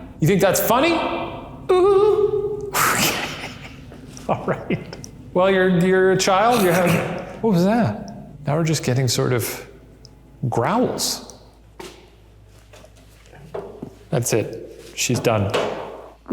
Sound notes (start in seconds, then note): 1.6 laughing; 6.8 exclaims